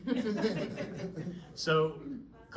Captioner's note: laughing